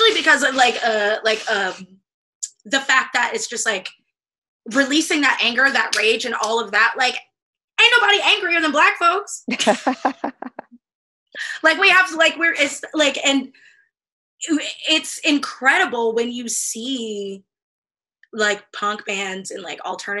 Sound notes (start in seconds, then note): 9.5 laughter